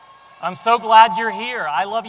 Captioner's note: audience cheering